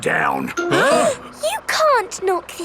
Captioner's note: all gasping